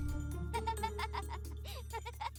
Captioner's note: laughing